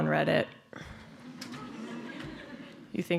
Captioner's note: laughter